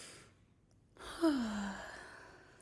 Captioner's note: exhales; inhales